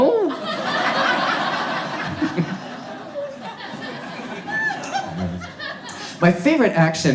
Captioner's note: audience laughs